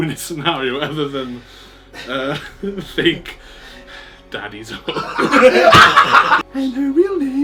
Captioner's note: laughs